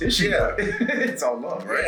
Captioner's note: laugh